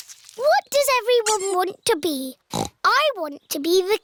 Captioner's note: snorts